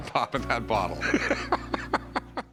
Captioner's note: laughs